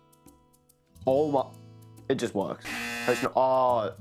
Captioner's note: loud incorrect buzzer